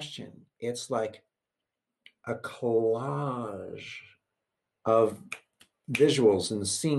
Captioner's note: clicks fingers